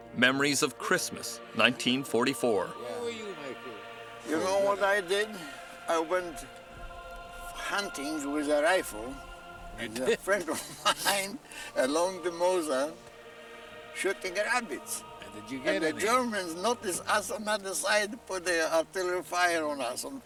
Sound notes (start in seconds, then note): 9.7 laughs